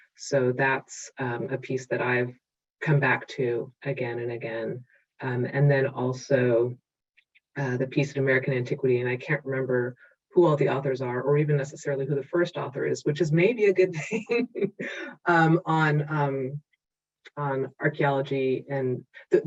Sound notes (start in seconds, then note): 14.0 laughing